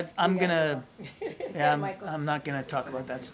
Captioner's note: laughs